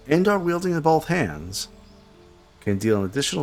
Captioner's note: silence